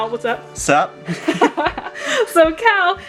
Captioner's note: both laughing